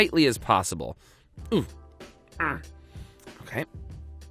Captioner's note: grunting